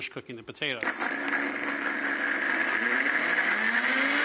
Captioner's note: blender whirs